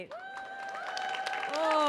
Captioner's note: audience cheering